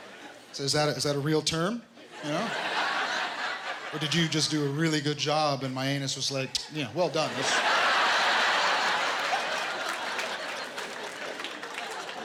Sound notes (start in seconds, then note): 7.2 laughter